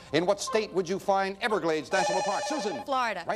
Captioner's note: bell rings